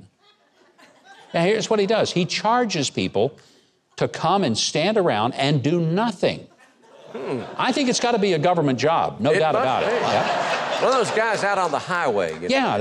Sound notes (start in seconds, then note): 0.2 crowd laughing; 6.6 crowd laughing